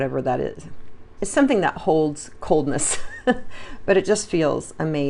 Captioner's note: chuckles